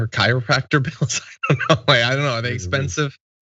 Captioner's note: laugh